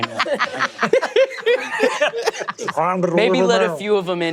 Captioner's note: everyone laughing